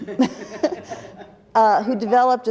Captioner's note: laughter